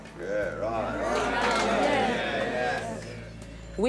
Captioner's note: crowd agreeing